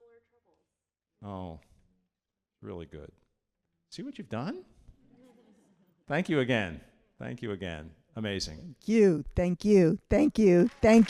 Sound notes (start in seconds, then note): 4.9 audience laughing; 10.6 audience applauding